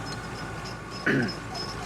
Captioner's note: clears throat